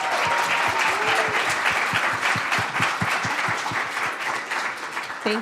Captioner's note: attendees applauding and cheering